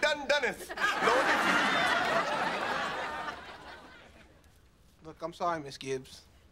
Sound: studio audience laughing

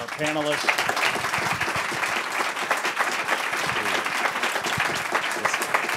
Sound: applause

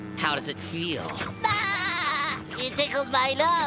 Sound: giggling

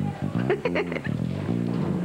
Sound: Rire

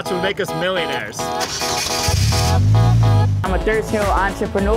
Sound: car engine revving

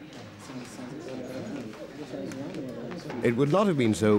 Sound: chattering

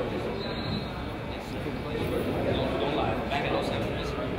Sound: whistle blows

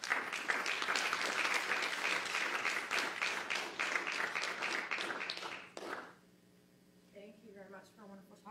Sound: applause

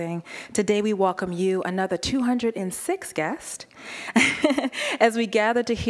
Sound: laughing

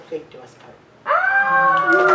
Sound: audience awws, applause and snaps

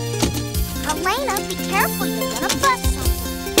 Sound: voiceover

